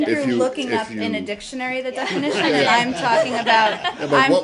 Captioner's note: laughter